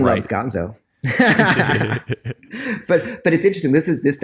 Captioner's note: laughs